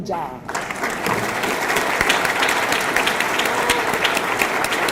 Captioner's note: audience clapping